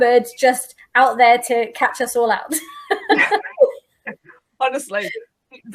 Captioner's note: laughs